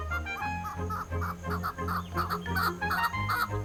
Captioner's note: bird sings